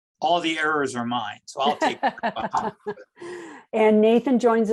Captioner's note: laughs